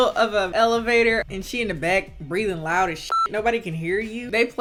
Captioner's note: beep